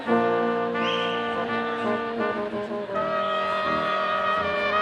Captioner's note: none